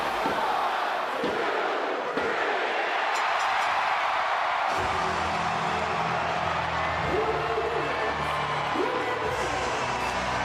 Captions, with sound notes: One, two, three! (audience cheering) (bell rings) (dramatic music)